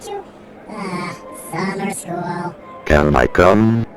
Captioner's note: sighs